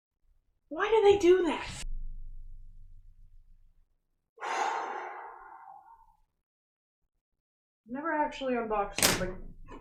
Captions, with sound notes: Why do they do that?! *exhales* I've never actually unboxed somethi-